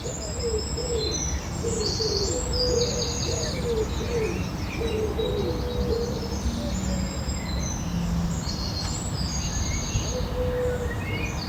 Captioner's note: dawn chorus